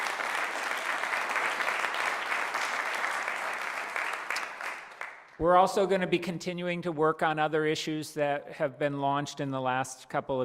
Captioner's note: applause